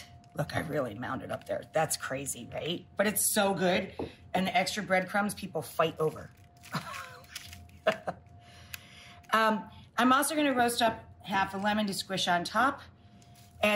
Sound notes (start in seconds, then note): 7.7 chuckles